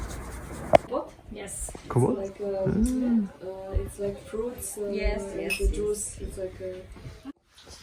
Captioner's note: chatter in the background